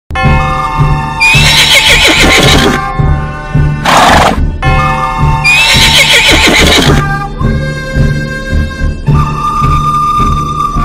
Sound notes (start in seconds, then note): 0.0 horse Neighs, Bell Tolls